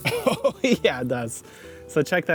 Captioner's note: laughing